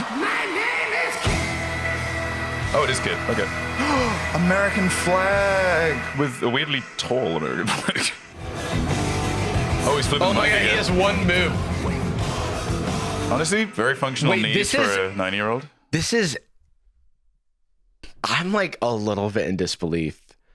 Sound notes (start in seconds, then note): 3.8 gasps